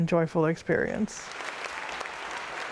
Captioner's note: audience clapping